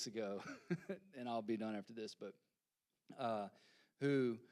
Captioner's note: laughing